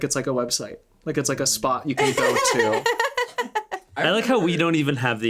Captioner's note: laughing